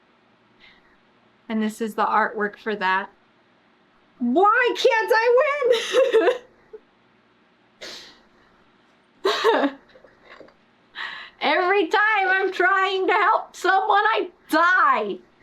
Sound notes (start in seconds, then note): 9.3 laughs